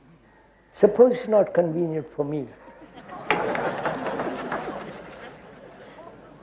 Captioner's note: laughter